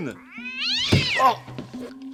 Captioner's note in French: Miaulement pas content